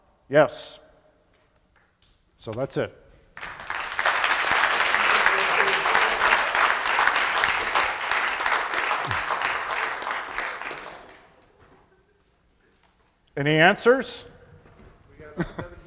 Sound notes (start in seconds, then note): 3.3 applause